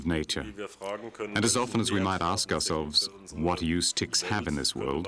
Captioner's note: speaking in foreign language